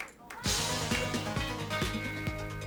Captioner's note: crowd cheering